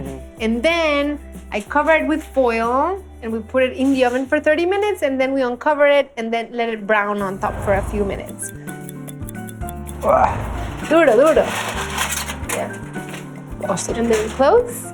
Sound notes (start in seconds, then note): 7.8 timer ticking; 9.8 speaking Spanish